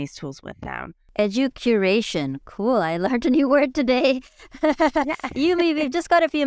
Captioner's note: laughs